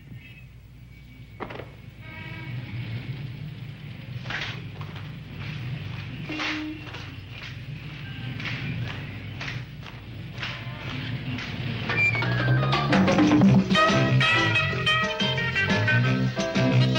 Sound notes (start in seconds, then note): 4.4 hands clapping in unison; 12.0 upbeat music